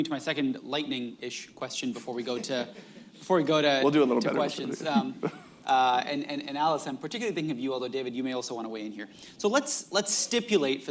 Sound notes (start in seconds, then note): 4.2 laughs; 4.7 laughter